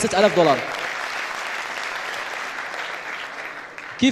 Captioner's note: applause